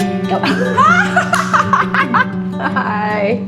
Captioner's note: laugh: the carema is tracking face